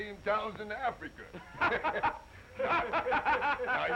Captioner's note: all laughing